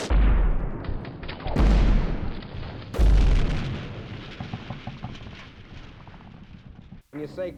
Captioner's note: bullets firing